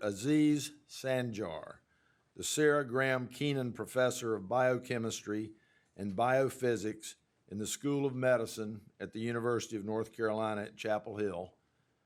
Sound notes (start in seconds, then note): none